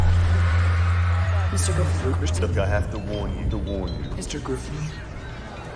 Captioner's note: echoing